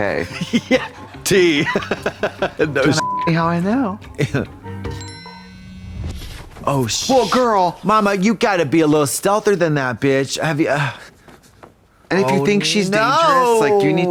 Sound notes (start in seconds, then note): 3.0 beep; 4.9 phone buzzing